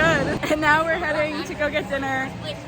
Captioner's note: laughing